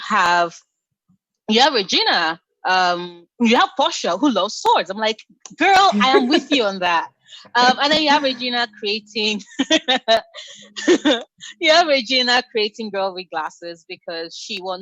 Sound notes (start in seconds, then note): 7.3 laughs; 10.1 laughter